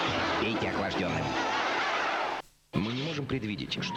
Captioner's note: laughter